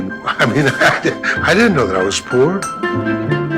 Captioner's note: laughing